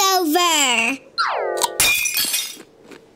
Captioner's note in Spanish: efecto de rotura de cristal